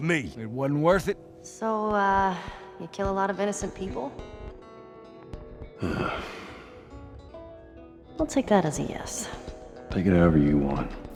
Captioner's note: grunt